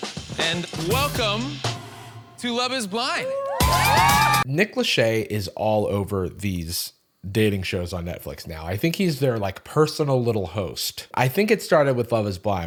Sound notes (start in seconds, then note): 3.0 cheering